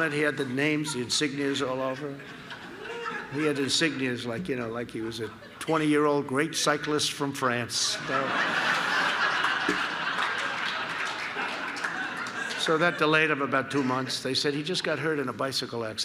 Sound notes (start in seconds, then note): 7.8 laughter